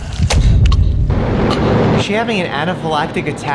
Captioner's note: choking